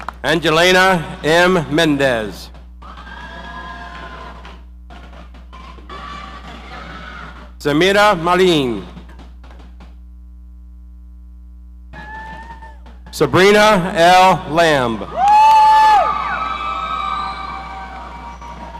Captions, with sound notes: Angelina M Mendez. (audience cheering) Samira Marene. Sabrina L Lamb. (audience cheering)